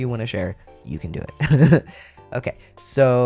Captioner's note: laugh